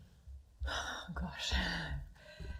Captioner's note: sighs